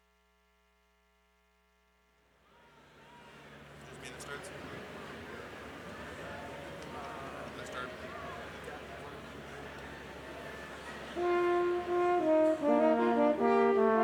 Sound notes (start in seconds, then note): 3.9 crowd chattering; 11.2 lively music